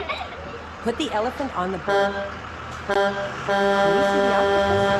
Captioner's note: children laughing; bus horn honking; car horn drowns out speaker